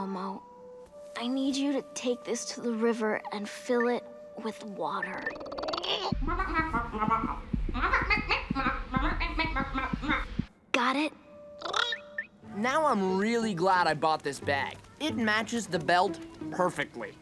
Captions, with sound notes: I need you to take this to the river and fill it with water. [babbling] Got it? Now, I'm really glad I bought this bag. It matches the belt perfectly.